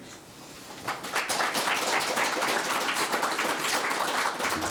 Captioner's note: audience clapping